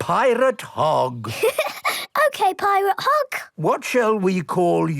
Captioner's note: laughing